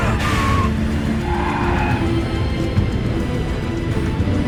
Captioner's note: tires screeching